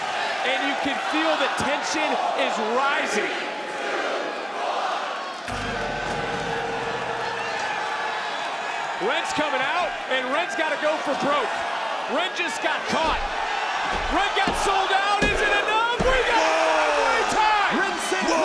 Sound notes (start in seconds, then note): 5.4 gong rings